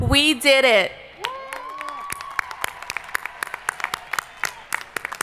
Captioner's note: crowd applauding